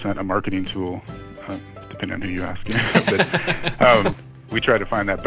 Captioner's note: laughter